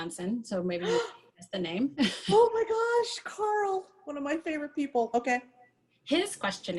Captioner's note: gasps